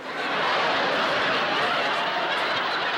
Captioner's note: laughter